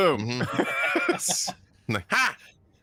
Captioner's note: both laughing